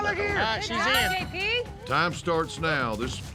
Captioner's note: horn blows